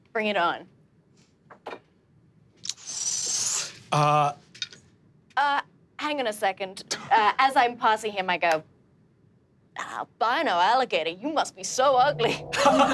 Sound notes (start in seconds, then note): 2.8 sucks in air; 12.2 all laughing